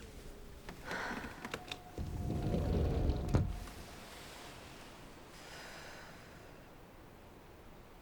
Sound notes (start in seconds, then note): 1.9 door slides open